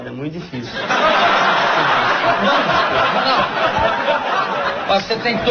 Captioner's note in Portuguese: plateia ri